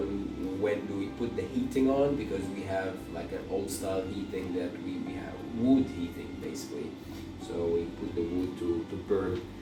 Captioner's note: wood heating